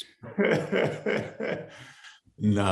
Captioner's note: Yahya laughing